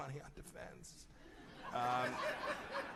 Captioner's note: laughter